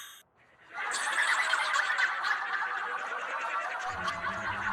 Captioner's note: cue all of them bursting into laughter